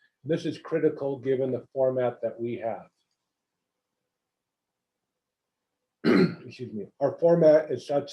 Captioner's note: cough